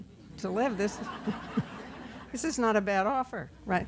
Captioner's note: laughter